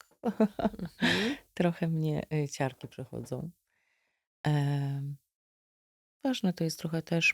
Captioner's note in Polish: śmiech